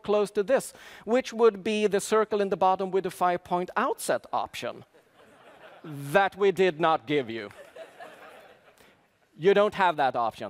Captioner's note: laughter